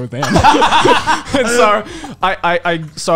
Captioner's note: laughing